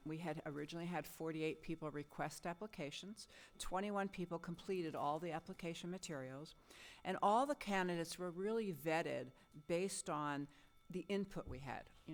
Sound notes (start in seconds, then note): none